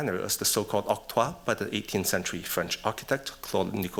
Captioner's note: french